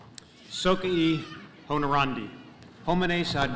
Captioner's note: speaking latin